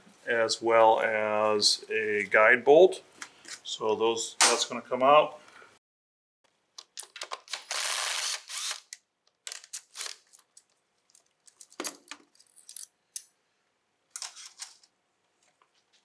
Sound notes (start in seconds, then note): 5.5 power tool noise; 11.2 clip and bolt removal sounds